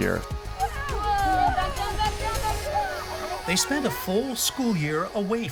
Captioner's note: cheering